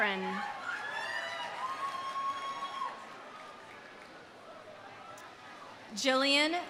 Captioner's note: audience cheering; audience applauding